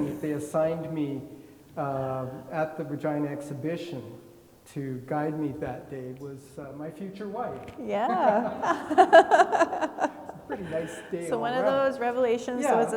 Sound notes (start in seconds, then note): 8.0 laugh